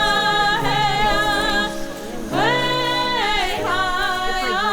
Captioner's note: people talking